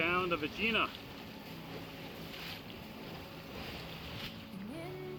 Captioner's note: water splashing